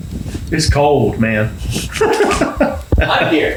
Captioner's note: laughs